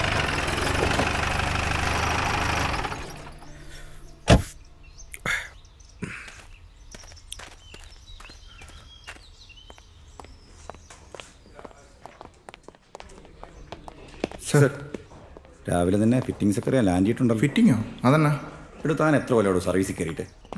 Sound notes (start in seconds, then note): 3.9 smoking sound